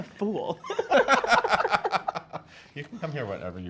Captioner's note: laughs